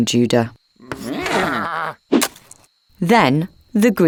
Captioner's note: sheep bleating